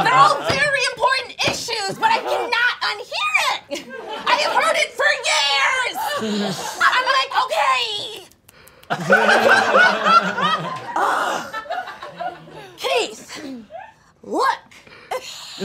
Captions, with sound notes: They're all very important issues, but I cannot unhear it! I have heard it for years! I'm like, okay. (snaps fingers) (all laughing) Keith, look.